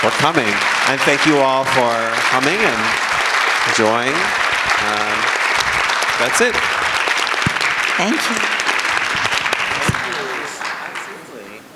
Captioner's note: applause